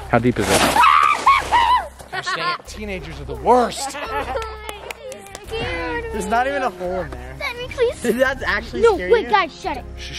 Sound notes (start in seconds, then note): 1.0 screams